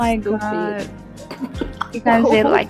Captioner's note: giggles